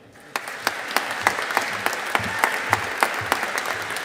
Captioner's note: audience applauding